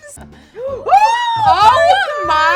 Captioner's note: both exclaim